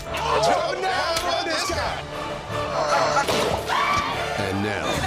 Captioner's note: laughter